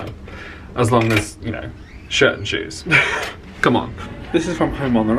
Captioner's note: laughs